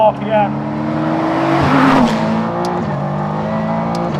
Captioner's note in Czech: řvoucí motor auta